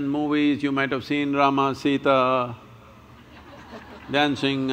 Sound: laughter

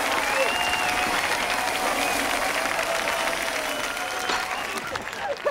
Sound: cheering

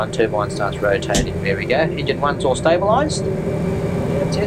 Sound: click - starter cutout

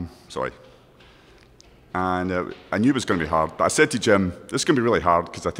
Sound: none

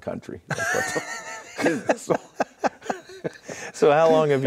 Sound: both laughing

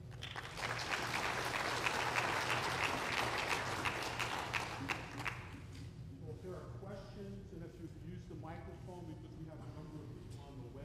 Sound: applause

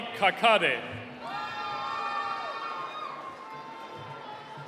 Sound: cheering

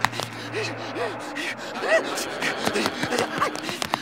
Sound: panting

